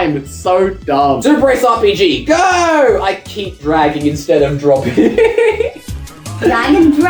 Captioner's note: laughs, plays